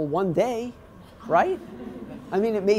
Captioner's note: laughing